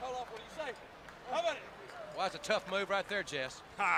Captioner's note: crowd chatter